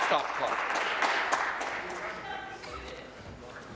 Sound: applause

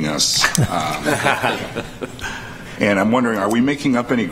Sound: laughter

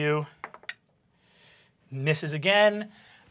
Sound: die clatters

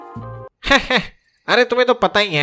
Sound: chuckles

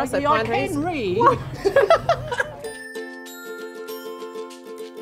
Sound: laughter

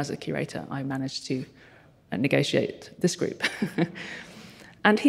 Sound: chuckles

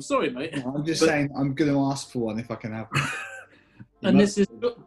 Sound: laughing

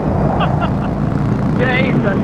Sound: laughs

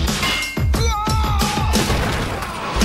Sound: screams

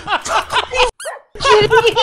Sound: hyperventilating; even more laughing; laughs

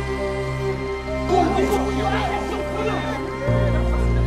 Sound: shouts

